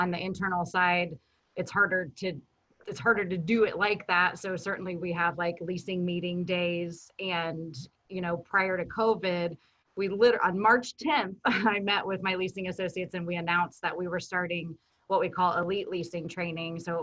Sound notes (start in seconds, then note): 11.6 chuckles